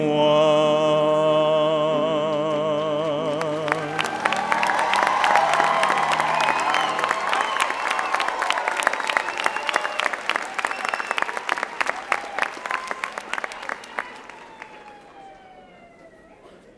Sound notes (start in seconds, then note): 3.2 applause and Cheering